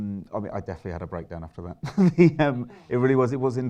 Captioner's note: laughs